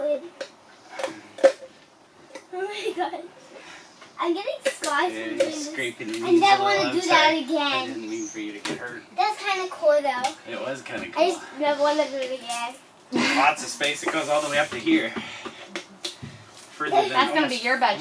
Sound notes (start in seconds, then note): 5.7 laughing